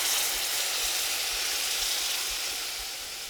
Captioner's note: pan sizzling